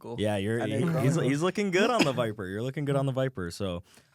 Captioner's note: laughs